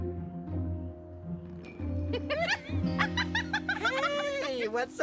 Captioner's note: laughing